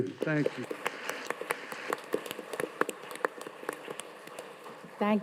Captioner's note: audience applauding